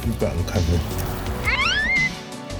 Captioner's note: laughs